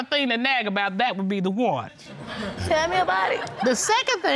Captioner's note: audience laughing